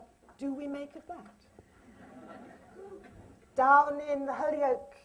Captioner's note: laughter